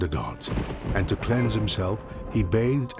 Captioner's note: thunder rumbles